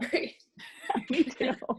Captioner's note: laughing